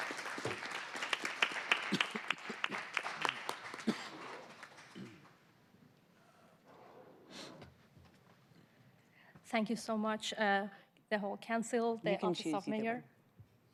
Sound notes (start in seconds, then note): 1.7 applause